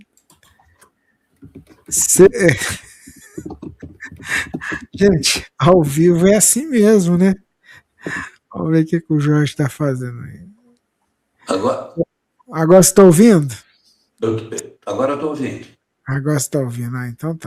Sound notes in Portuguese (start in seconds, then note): 2.4 risadas